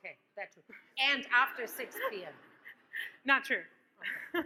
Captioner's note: audience laughs; laughs